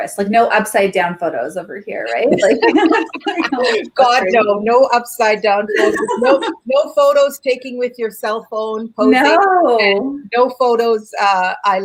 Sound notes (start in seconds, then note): 2.1 both laugh